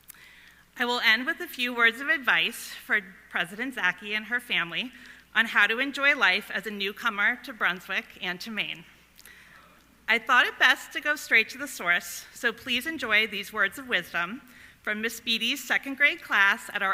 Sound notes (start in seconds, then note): none